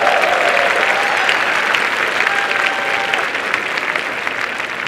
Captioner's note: applause and cheering